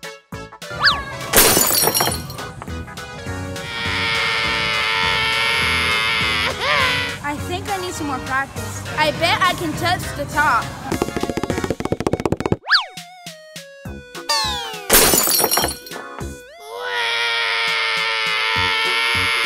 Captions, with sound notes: (crashes) (cries) I think I need some more practice. I bet I can touch the top. (fast tapping) (crashes) (cries)